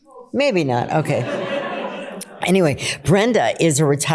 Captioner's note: laughter